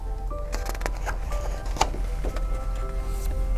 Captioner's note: page turns